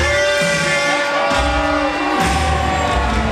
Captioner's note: boo-ing